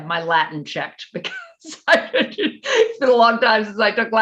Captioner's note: laughing